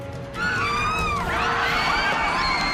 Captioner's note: screaming